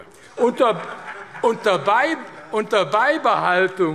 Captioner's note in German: Heiterkeit AfD